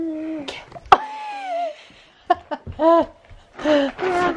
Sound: laughing

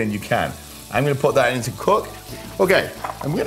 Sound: pan sizzles

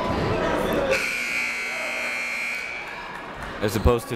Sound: buzzer goes off

